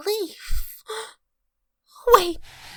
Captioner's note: gasps